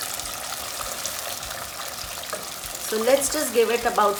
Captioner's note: sizzling